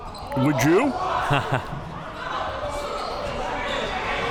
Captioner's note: chuckles